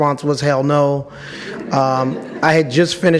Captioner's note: audience laughs